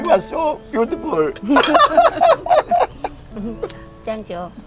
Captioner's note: both laughing